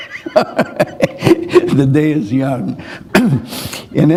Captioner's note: chuckle